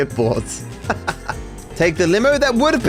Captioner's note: laughs